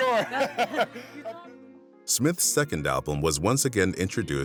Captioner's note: laughs